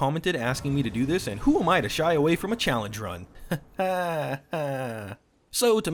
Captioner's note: nervous laughter